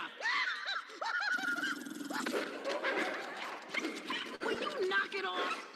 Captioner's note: laughter